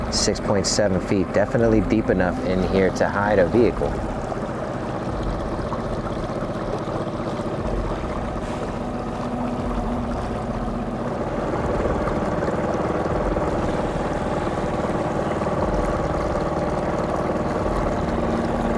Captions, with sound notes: 6.7 feet, definitely deep enough in here to hide a vehicle. (ominous music continues) (engine droning) (ominous music continues) (engine droning)